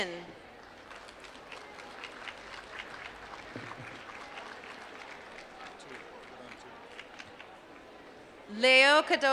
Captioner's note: applause